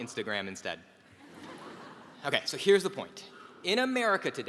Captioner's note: laugh